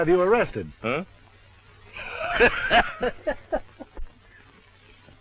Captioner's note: laughter